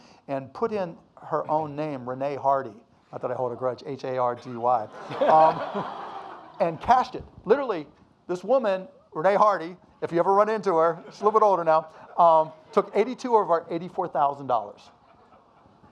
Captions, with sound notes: "and put in her own name, Renee Hardy." Not that I hold a grudge. H-A-R-D-Y. (audience laughing) And cashed it. Literally, this woman, Renee Hardy, if you ever run into her, she's a little bit older now, took 82 of our $84,000.